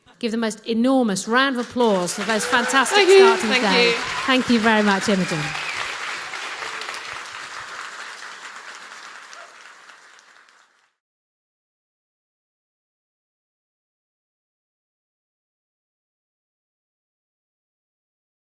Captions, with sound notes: Give the most enormous round of applause for the most fantastic start of the day. Thank you. Thank you. Thank you very much, Imogen. [CHEERS AND APPLAUSE]